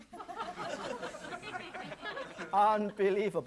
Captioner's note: audience laughing